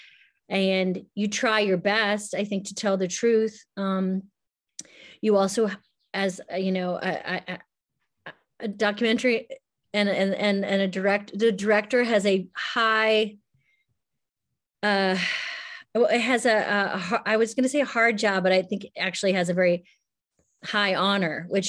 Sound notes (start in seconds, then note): 14.3 sighs